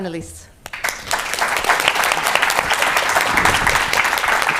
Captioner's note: applause